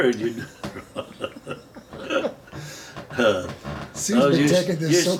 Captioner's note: both laughing